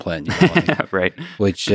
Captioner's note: laughs